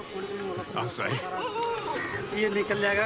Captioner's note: hindi-spoken audio